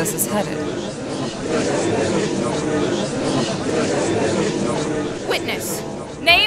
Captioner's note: gallery chattering